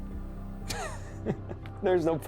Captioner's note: Kent chuckling